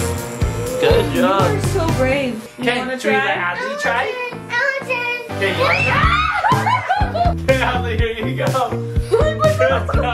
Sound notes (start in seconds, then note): 5.6 screams